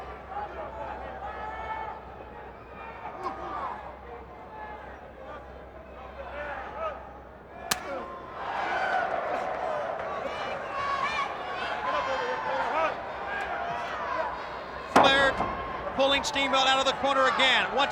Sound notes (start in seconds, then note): 8.6 crowd cheering